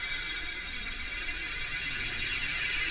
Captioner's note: none